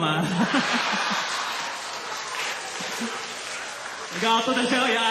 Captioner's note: laughter, applause